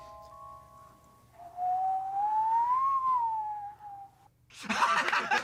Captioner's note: whistles with varying loudness; all laughing